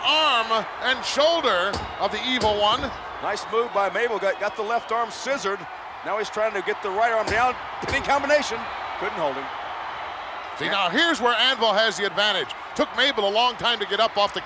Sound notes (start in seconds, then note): 1.4 referee smacking mat; 7.2 referee smacking mat